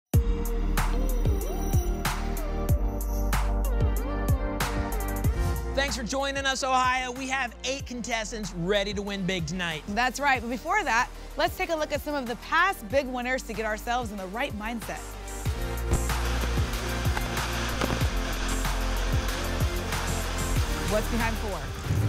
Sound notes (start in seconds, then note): 15.5 static; 21.8 booms